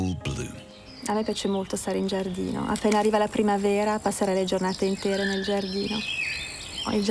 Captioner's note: speaks in foreign language